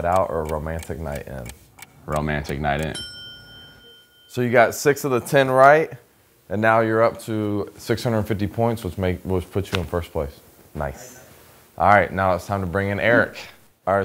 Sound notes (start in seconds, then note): 2.8 bell dinging